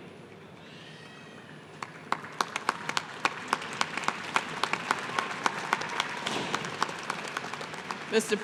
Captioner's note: applause